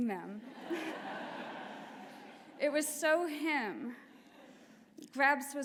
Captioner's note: laughter